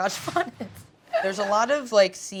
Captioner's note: whooshing; laughs